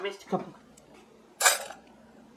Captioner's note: clank